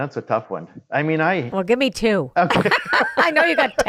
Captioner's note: laughs